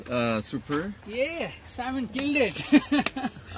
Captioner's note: laughs